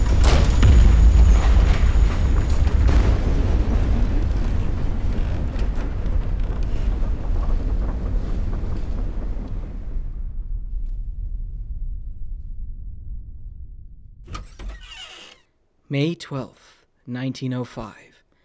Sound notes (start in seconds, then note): 4.7 rumbling quiets until ringing silence; 14.2 cellar door creaks open